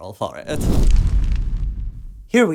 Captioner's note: flames